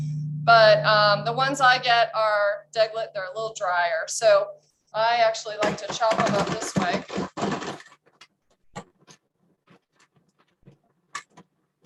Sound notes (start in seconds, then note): 7.3 food processor whirs